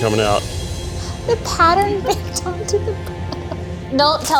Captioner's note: laughing